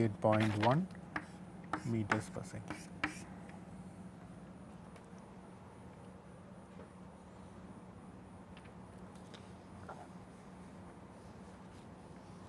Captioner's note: puncture